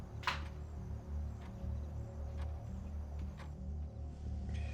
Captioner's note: object clicks